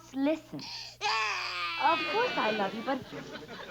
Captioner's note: Stanley cries